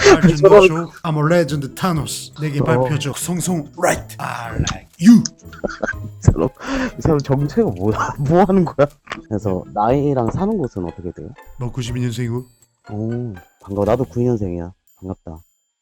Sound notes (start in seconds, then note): 5.6 laughter